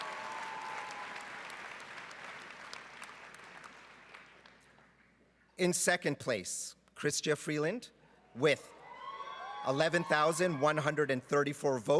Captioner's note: cheering and Applause